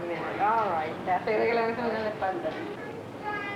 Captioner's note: Spanish speaking